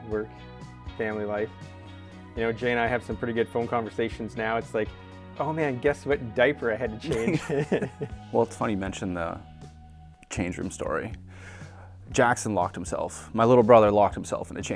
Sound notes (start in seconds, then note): 7.0 laughs